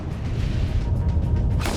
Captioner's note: dramatic music; booms